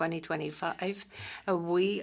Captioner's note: speaking French